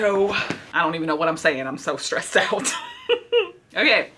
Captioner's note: giggles